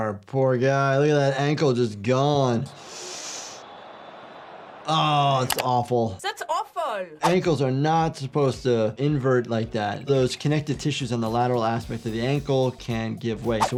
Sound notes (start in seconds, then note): 3.0 gasping; 3.4 stadium buzzing; 5.5 keyboard clicking